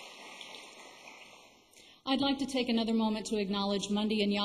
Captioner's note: applause